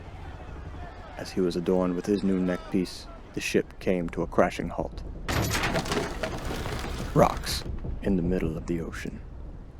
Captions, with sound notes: As he was adorned with his new neckpiece, the ship came to a crashing halt. [BANG] Rocks in the middle of the ocean.